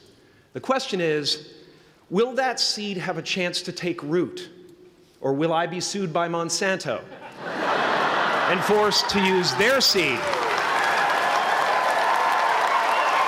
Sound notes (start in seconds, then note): 7.0 laughter; 10.2 applause